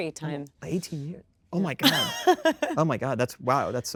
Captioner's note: Kristen laughs